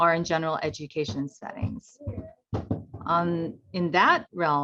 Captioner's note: footsteps thumping